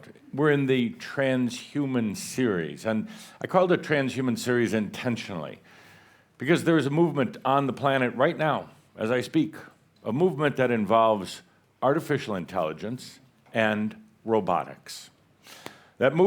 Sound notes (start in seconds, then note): none